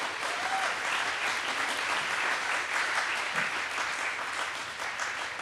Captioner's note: audience cheers and applauds